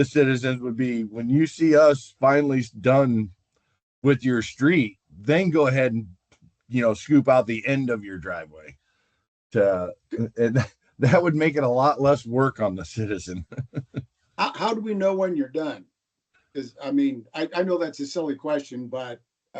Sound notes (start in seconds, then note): 13.3 laughter